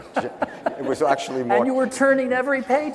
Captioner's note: laughing